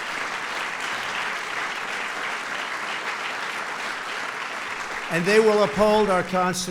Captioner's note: applause